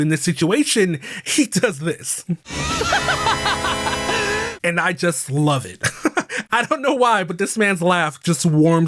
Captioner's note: laughs fucking manically